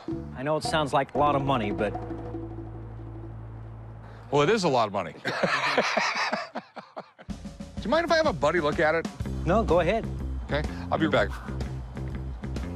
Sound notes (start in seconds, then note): 5.2 laughter